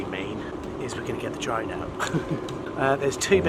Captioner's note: chuckles